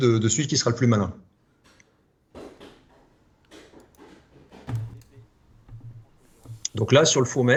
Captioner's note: stuff falling down